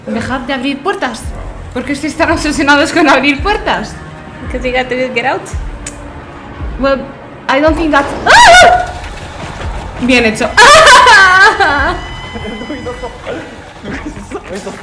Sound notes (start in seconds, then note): 8.0 continues whining; 8.2 screams